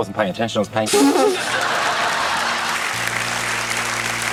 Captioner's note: laughter, applause; splutters